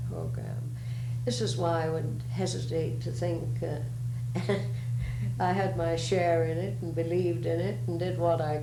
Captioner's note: laughs